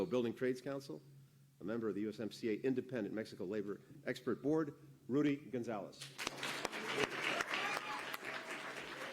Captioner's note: applause